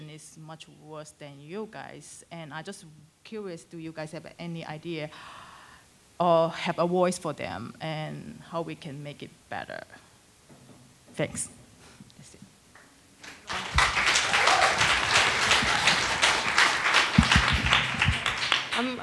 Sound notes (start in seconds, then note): 13.2 attendees applauding